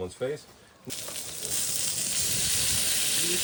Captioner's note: sizzling